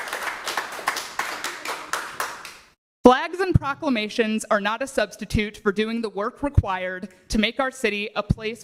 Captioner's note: applause